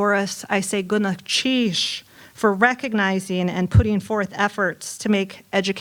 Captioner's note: non-english